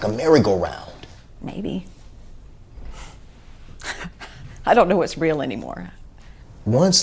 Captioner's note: she laughs